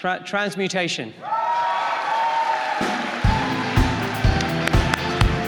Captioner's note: applause and cheering